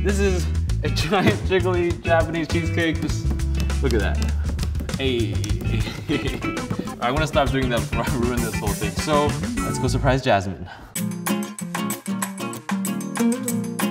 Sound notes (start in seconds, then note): 5.3 laughs; 10.9 groovy music